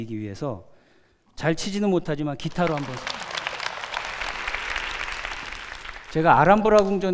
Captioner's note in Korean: 박수